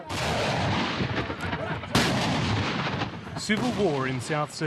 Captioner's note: explosions